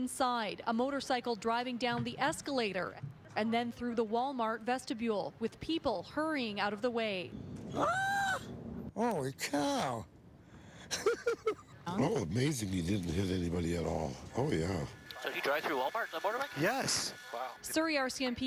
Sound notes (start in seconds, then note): 9.4 screaming; 10.9 laughter